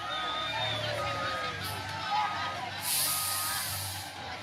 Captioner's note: people screaming